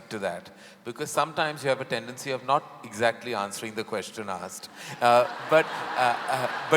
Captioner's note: laughter